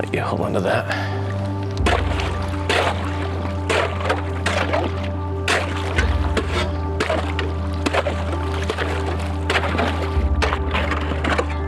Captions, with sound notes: I'll let you hold onto that. (ice breaking)